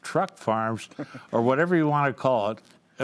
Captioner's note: chuckles